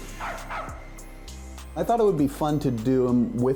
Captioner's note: dog barking